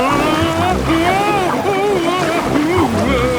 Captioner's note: Daddy Pig shouting